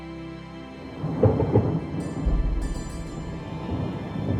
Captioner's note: thunder rumbling